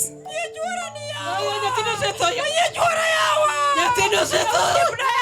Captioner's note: women screaming and weeping